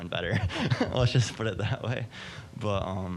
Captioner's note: laughing